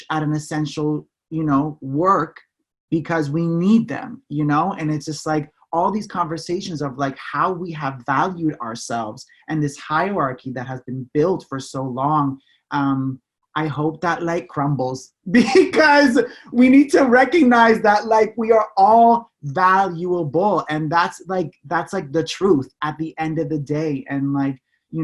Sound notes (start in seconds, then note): 15.4 laughing